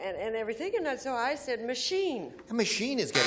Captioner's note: buzzer